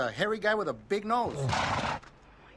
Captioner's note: snorts